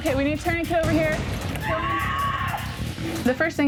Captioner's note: screaming